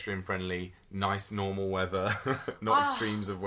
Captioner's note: sighs loudly